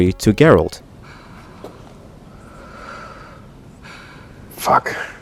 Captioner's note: Calanthe breathing heavily